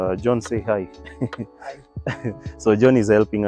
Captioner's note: laughs